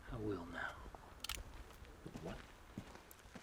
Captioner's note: gun clicking